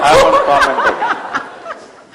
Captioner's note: laughter